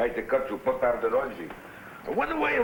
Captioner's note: speaking in foreign language